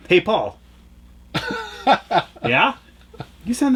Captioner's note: laughs